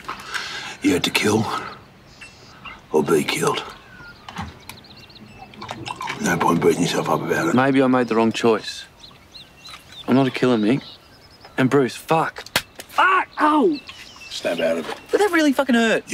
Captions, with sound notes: You had to kill... ...or be killed. No point beating yourself up about it. Maybe I made the wrong choice. I'm not a killer, Mick. And Bruce, fuck... [Slap] Fuck! Ow! Snap out of it. But that really fucking hurt!